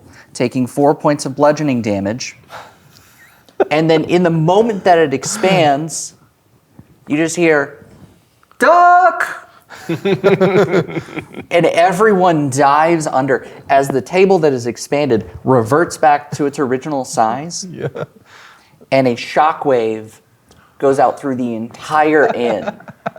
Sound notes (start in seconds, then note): 9.8 players laughing; 17.6 chuckling